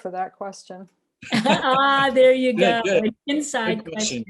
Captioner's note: laughs